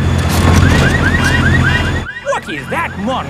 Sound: car alarms blaring

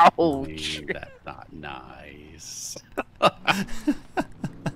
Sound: laughs

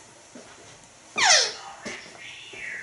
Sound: squeak

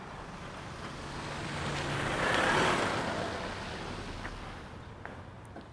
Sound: car engine

